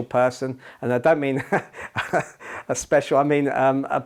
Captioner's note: laughter